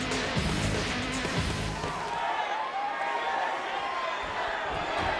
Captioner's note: crowd cheering